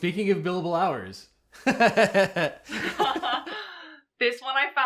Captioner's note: host laughs; laughs